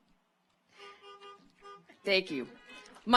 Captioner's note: car horns honking